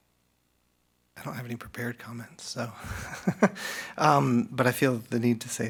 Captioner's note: laughs